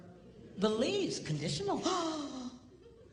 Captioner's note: gasp